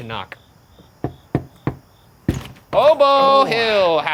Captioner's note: knocking on door